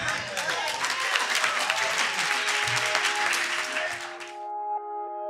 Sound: audience clapping

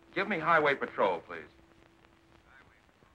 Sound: on phone

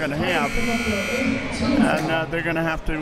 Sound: buzzer ringing

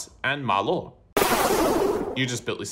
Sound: explode

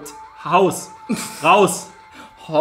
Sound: laughs

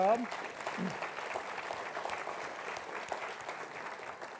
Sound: audience applauding

